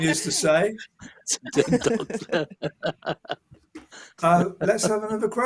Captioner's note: laughter